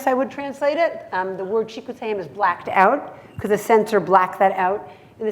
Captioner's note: hebrew